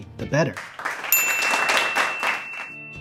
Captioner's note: applause and a ding noise